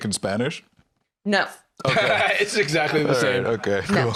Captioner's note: laughs